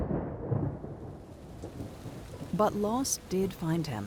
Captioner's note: thunder rumbles; rain pattering